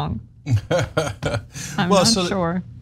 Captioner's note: laugh